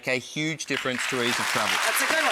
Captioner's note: audience clapping